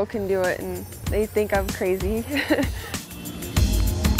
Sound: chuckles

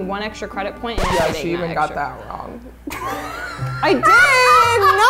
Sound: laughs

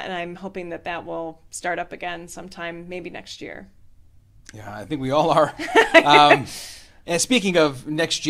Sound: laughter

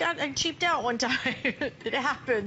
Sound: laughter

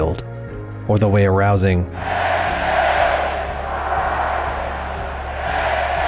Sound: audience cheers Texas Fight

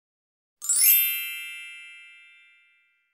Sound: twinkle

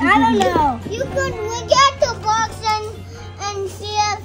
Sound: babbles

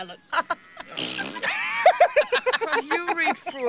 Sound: laughs; all laugh; blows raspberry

